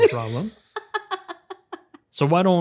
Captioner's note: laughs